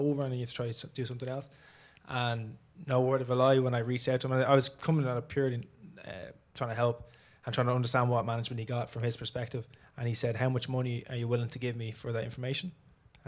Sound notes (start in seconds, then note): none